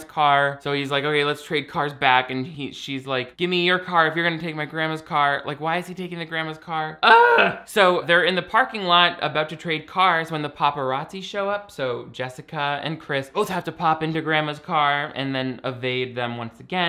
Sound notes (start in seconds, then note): 7.0 screaming